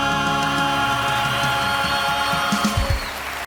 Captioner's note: audience applauds; audience cheers